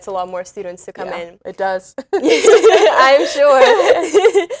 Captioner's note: laughs